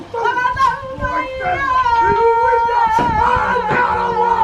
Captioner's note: chanting continues